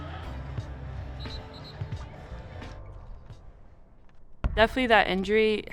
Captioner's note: whistle blows